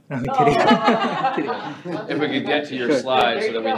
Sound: all laughing

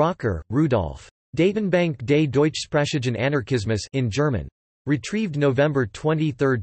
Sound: in German

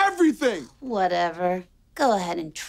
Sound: scoffs

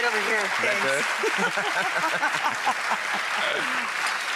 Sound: laughing

